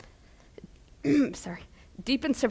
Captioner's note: clears throat